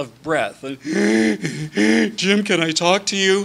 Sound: gasping

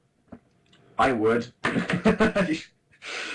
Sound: laughs

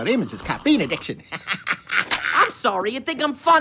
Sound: laughing

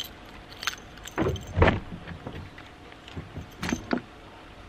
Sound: keys jingle, car being unlocked and door opened

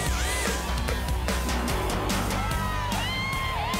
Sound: banging

